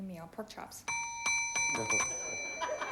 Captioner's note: buzz buzz; laughter